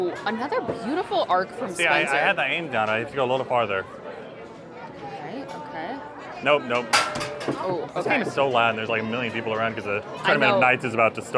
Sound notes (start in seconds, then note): 7.3 clack